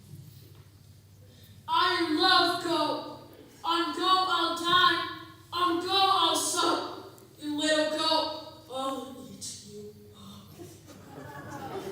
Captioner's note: laughter